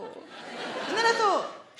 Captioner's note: audience laughing